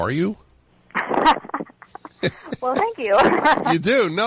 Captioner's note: laughing